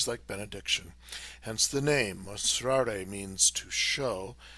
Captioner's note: speaking in foreign language